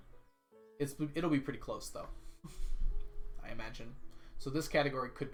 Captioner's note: chuckles